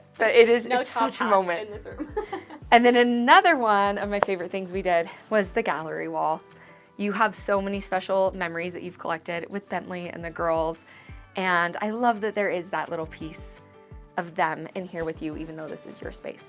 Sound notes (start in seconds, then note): 1.9 laughs